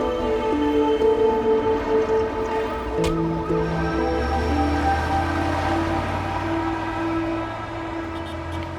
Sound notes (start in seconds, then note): 4.5 car engine running